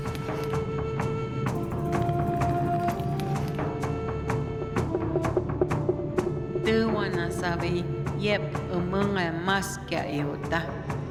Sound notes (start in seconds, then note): 4.2 knocking sound